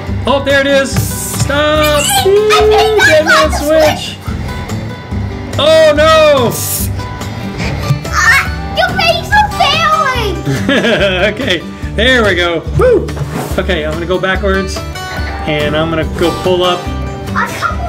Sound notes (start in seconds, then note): 10.4 laughing